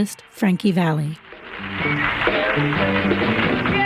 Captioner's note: audience claps